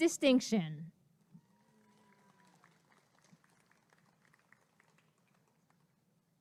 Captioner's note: applause and cheering